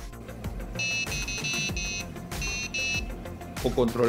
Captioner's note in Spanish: sonidos computadora